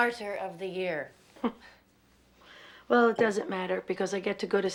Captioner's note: chuckles